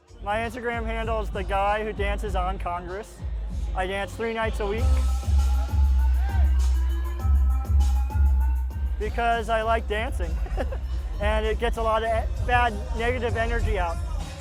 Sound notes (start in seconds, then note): 9.7 laughs